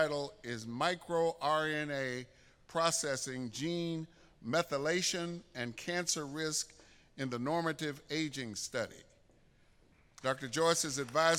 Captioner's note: applause